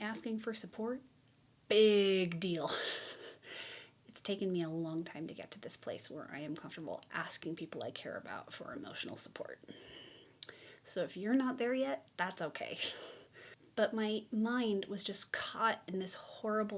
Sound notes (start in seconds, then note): 3.0 chuckles